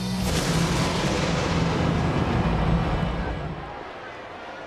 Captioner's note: thunder rumbles